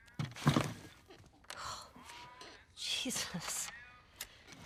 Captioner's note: door creaks